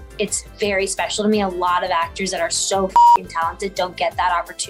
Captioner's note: beep